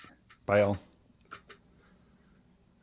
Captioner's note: clicking